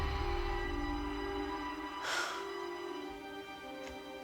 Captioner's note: sighs